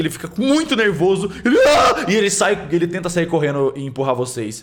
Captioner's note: screams